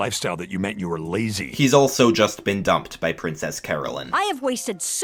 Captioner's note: voiceover